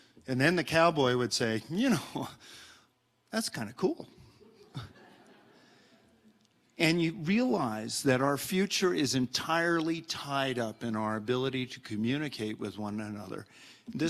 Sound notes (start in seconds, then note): 4.5 audience laughs